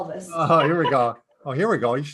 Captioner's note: laugh